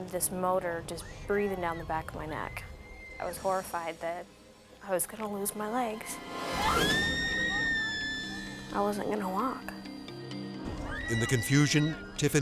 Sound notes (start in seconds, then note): 2.7 people screaming; 5.4 edgy dramatic music; 6.6 people screaming